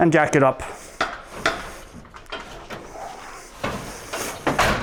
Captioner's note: metal clanging